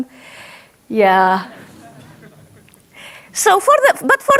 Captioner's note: audience laughs